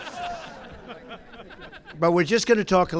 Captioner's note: laughter